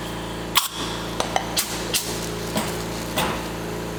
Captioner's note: spraying